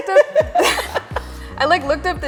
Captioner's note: laughter